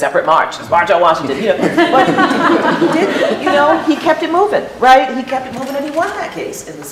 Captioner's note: laughter